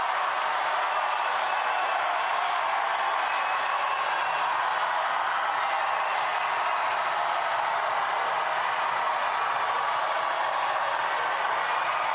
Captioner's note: cheering